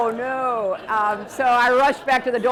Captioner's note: laughter